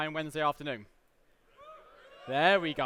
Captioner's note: audience responds